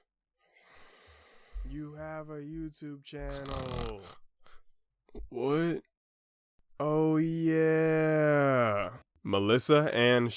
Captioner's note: snores; snore interrupts